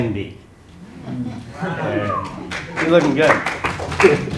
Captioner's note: applause